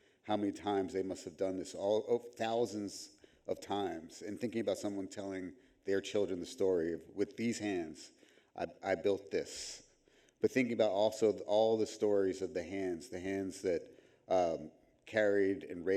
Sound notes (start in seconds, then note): none